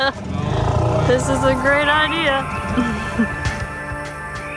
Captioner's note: laughs